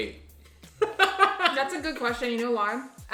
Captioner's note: laughing